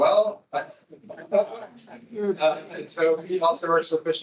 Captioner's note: attendees laughing